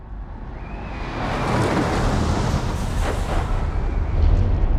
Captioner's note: suspenseful music; jet engine roaring